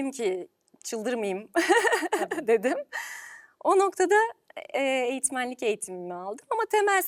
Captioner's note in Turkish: kahkaha